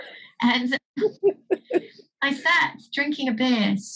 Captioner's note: laughs